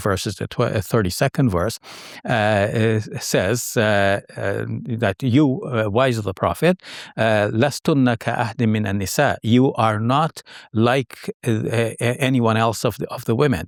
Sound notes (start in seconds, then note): 7.5 speaking Arabic